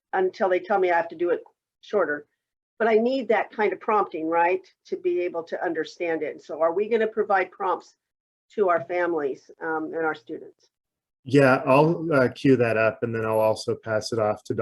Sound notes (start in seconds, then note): none